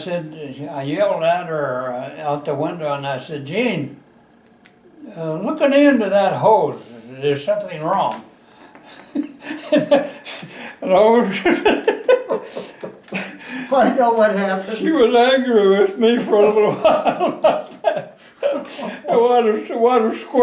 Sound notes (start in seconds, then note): 9.2 laughter, motioning